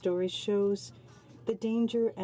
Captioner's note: speaking French